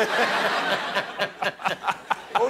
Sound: laughter

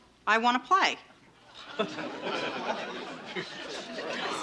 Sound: parents laughing

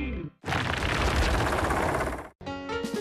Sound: rumbling; clattering; country Music

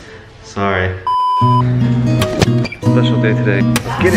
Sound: beep

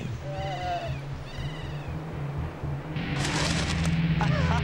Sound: laughing and cheering

